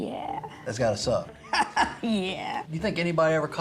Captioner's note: laughs